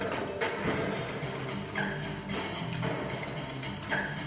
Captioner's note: coins jingling